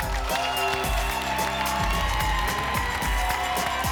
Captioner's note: applause and cheering cont